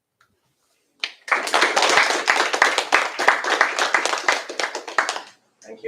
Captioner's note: applause